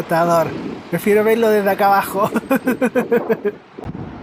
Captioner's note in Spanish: risas